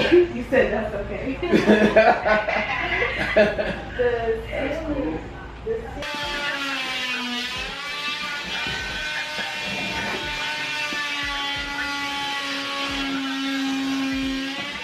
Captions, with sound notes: You said that's okay. (laughs) (tool motor humming)